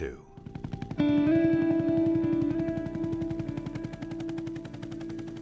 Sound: helicopter blades whirring

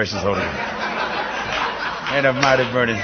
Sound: laughter

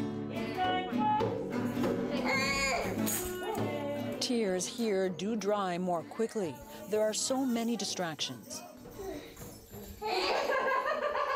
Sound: laughter

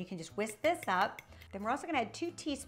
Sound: spoon tapping

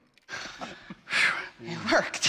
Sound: exhalinaling stronglyngl; chuckhuckling

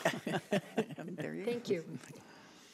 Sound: board laughing

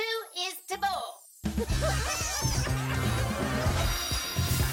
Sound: upbeats playing; cheering and laughing

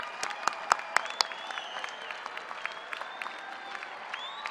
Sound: cheers and applause

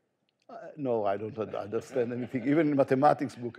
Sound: audience laughing

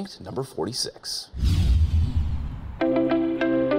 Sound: transition whooshing; gentle music

